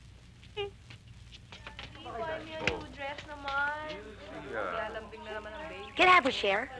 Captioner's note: chattering